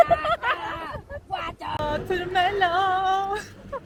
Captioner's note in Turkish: kahkaha